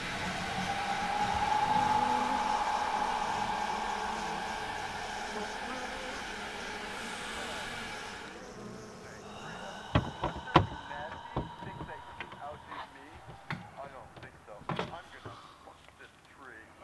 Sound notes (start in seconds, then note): 0.2 ghostly breathing; 8.6 buzzing